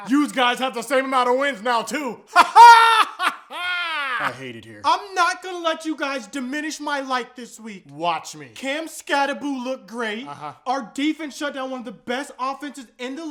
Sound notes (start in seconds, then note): 2.3 weird laughing back again